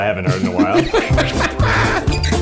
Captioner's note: Nick laughing; rollicking music